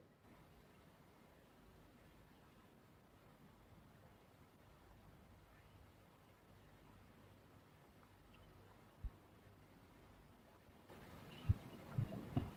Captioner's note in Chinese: 停頓